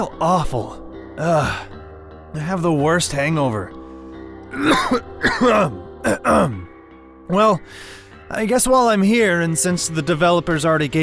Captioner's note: cough clear throat